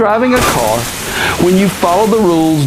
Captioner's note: car crashing